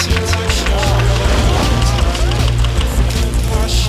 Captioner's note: group cheering